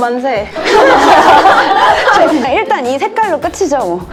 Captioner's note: laughter